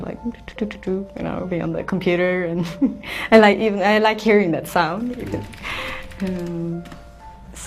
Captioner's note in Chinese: 敲鍵盤